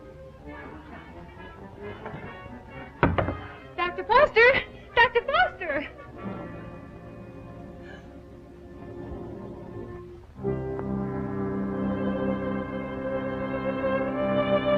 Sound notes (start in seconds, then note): 7.8 gasp